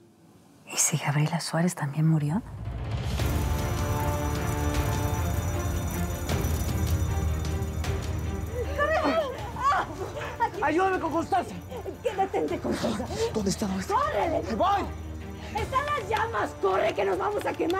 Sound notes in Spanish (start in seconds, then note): 10.5 Gritos